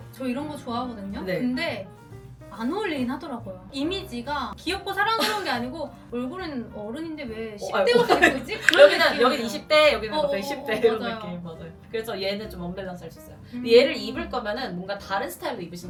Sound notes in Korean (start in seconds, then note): 7.7 웃음